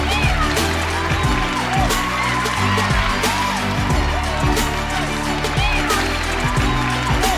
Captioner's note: audience applauding; audience cheering; upbeat music